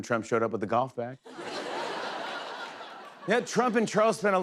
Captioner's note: laughter